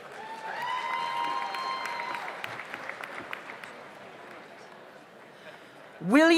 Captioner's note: audience applauds; audience cheers